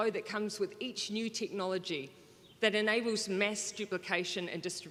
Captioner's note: none